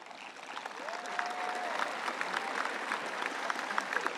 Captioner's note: audience applauds